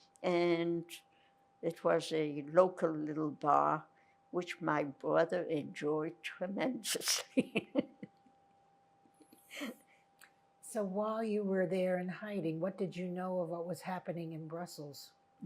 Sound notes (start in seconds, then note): 7.1 laughing